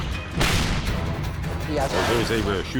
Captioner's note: shell exploding; tank turret firing; shell exploding